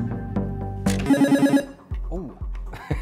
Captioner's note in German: Buzzer